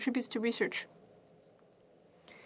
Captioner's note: speaking French